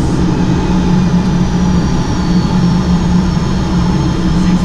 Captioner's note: engine roaring